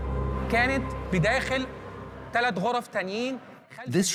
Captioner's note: Arabic dubbed in English